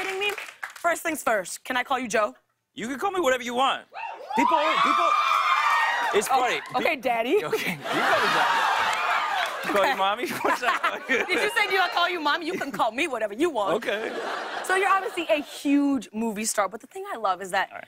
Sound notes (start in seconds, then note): 4.0 crowd cheering; 7.4 laughs; 7.6 laughter, cheers; 13.8 laughter